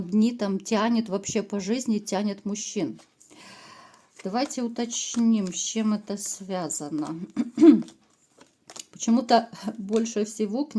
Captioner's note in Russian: откашливается